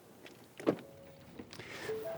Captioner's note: door chime